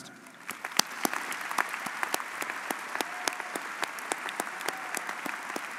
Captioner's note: audience cheering and applauding